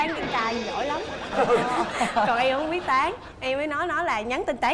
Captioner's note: laughing